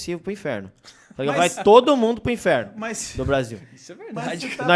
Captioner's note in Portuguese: risos